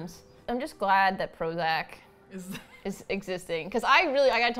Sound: laughs

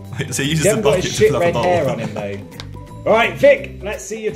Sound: murmurs

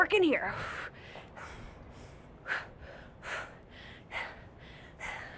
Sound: labored breathing

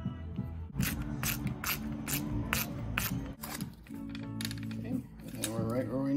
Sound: screwdriver ratcheting

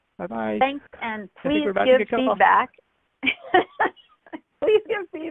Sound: laughs

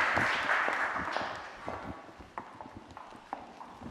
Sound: applause

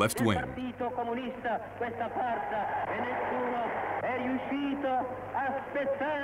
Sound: foreign language

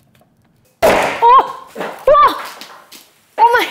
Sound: bottle pops

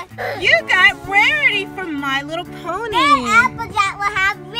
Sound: voiceover

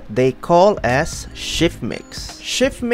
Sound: ozzy man accent

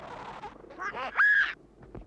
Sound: Drutt squeaking

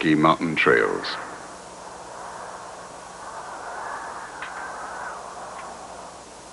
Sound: wind whistling

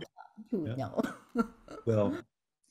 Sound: chuckling

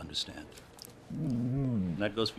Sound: whimpering

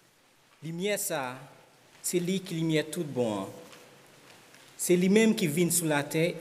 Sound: speaking in Haitian Creole

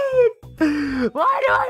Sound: deep inhale

